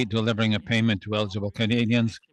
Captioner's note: speaking French